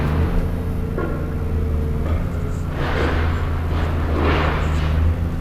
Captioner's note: pleasant mechanical noise